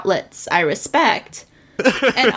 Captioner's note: laughs